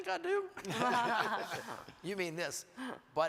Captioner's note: everyone laughs